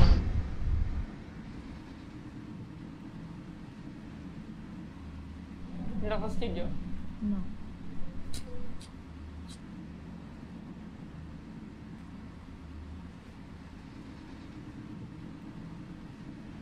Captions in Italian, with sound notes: Le dà fastidio? No. [click dell'accendino]